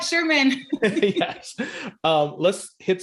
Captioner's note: laughing